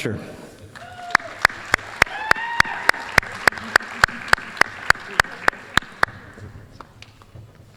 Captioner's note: applause, cheering